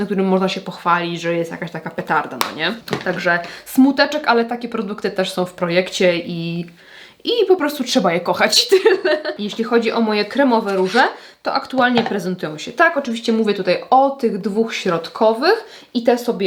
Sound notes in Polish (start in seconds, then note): 8.7 śmiech